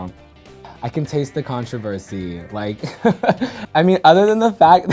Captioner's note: laughs